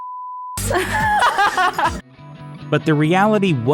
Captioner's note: laughing